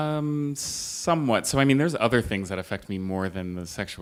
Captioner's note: none